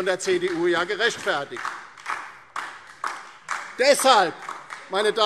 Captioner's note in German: Beifall DIE LINKE und SPD